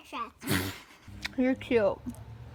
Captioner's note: laughing